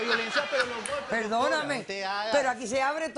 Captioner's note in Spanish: risas